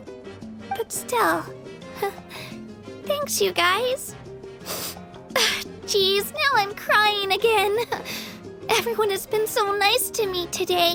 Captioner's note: sniff